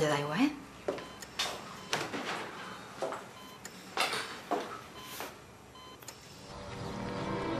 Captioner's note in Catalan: pip-pip-pip-pip